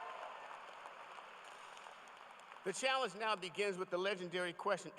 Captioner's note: cheers and applause